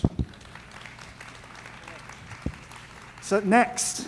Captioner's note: audience clapping